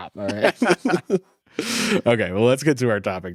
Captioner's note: both laughing